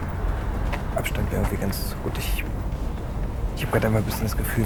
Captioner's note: Jonas speaks in German